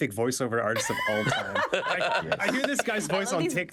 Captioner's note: all laughing loudly